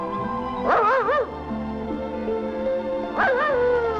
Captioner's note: barking